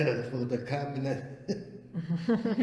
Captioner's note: all laugh